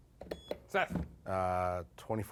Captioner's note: beep